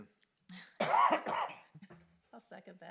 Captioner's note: trustee coughing